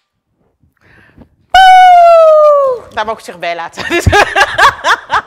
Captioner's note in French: rires